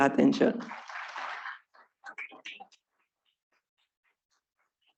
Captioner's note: students clapping